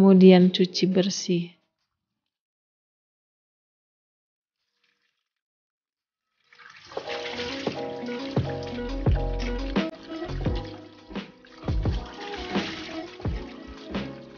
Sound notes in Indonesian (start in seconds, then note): 1.5 Suara air mengalir~Mencuci bersih ikan agar tidak terlalu asin~